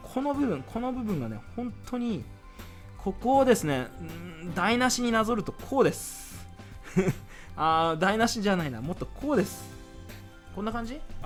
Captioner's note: laugh